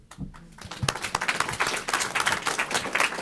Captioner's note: applause